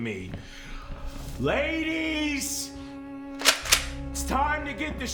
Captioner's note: shotgun clicks